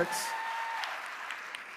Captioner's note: applause; cheer